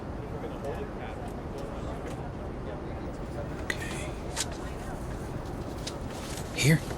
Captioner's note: passenger chatter